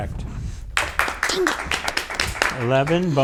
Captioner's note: audience applauds